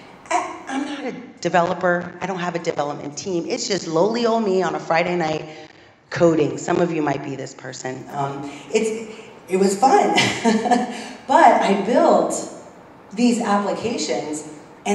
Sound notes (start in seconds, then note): 10.0 laugh